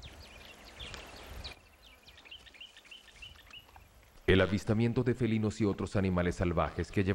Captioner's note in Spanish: sonidos selváticos